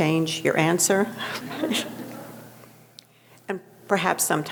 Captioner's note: audience chuckling